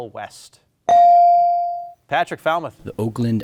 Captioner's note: buzzer chimes